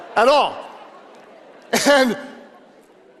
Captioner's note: audience laughing